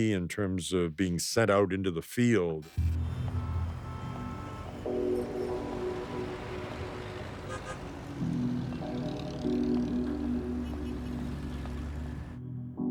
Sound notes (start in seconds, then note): 2.7 car horns honking; 2.7 somber music